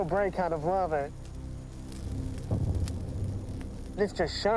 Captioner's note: crackling